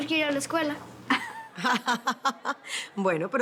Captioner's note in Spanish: Risas